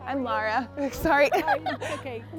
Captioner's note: laughter